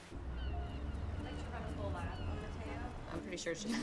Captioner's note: seagulls squawking